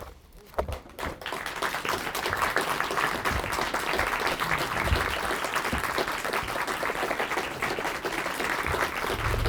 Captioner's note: applause